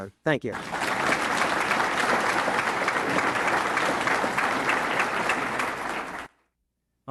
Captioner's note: audience applauding